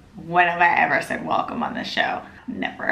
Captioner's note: none